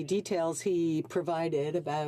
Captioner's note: speaking French